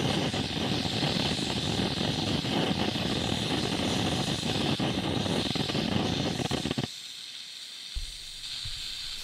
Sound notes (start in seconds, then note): 6.8 loud hissing stops